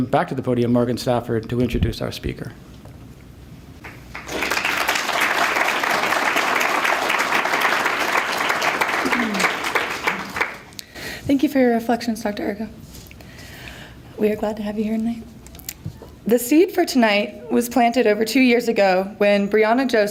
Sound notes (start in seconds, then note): 3.8 applause